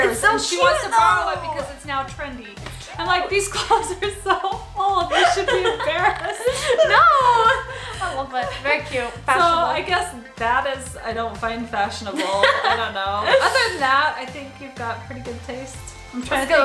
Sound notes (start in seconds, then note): 6.5 laughs; 12.1 laughs